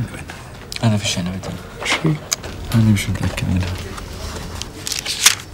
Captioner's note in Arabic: يتحدث باللغة الأجنبية